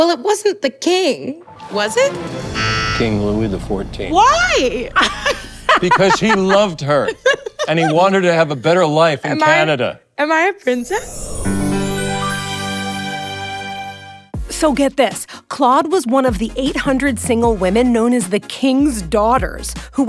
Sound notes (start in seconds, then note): 1.5 beeper buzzes; 4.9 laughs; 10.8 light whimsical music